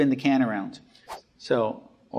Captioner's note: air whooshing